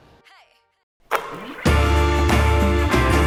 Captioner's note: ball shoots; lively music